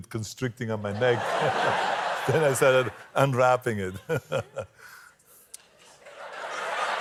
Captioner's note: laughter